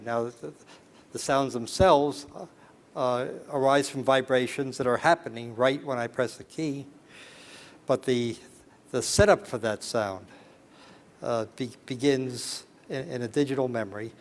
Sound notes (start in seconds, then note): none